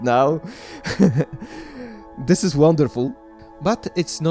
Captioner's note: laugh